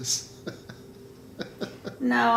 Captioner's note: laughing